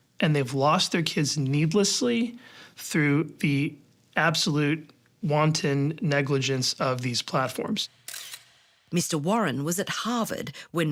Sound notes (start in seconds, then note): 8.0 camera shutter clicks